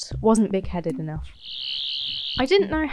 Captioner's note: Sonic Screwdriver noise